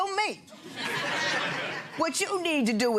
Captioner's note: audience laughing